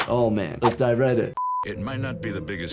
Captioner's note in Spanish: pitido de pantalla